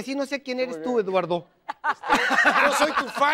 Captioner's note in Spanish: Ríe